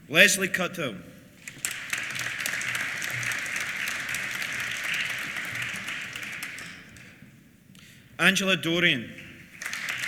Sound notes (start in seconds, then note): 1.4 applause; 9.2 applause